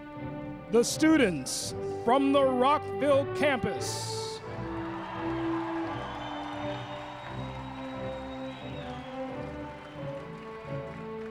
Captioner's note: applause